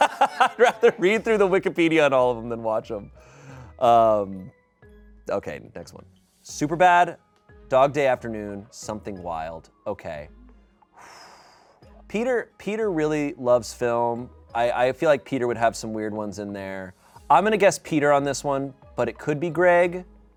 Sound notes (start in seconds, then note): 10.9 exhales sharply